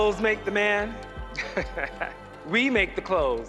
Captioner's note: laughs